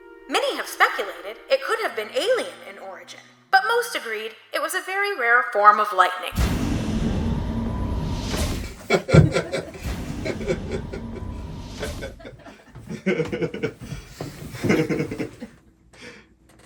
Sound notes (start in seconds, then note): 10.6 crew is laughing